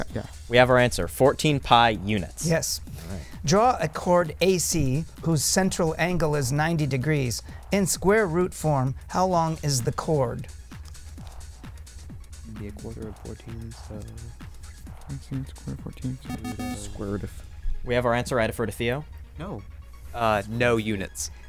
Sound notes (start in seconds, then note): 0.0 wispering; 10.8 wispering